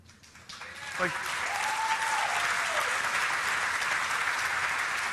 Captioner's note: audience applauds